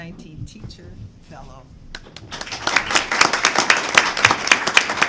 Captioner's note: clapping